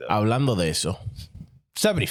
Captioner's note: speaking In Foreign Language